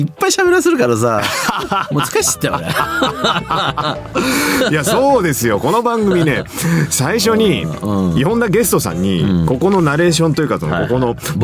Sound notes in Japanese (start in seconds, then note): 1.6 笑い